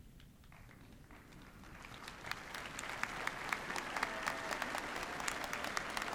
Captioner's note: applause